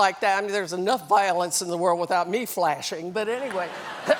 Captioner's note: laughter